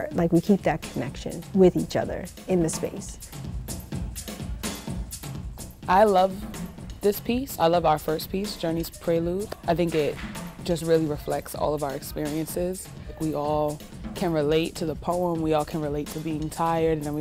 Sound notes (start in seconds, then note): 3.4 upbeat drumming music; 9.4 hands clap